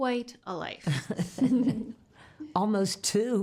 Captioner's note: women laughing